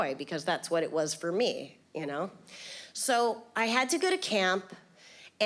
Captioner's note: none